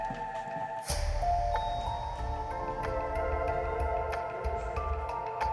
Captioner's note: elevator dings